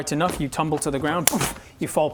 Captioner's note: boof!